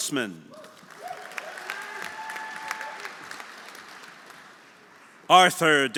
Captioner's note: audience applauding; audience cheering